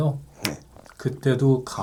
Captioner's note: snap!